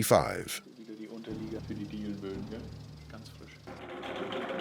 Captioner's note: man speaking German